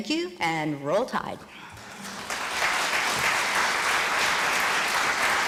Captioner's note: applause